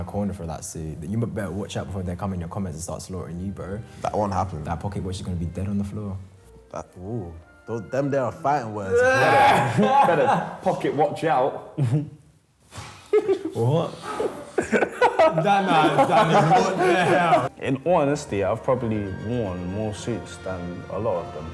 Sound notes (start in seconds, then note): 8.9 laughs; 12.4 chuckles